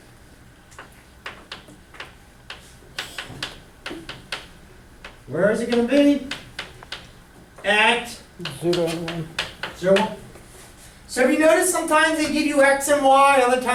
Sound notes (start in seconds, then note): 8.6 voiceover